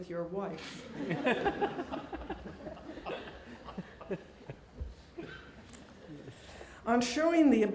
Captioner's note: laughing